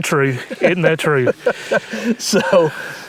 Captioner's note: laughs